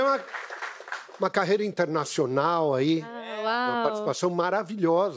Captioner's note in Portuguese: aplausos